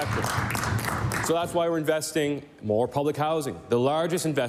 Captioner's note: applause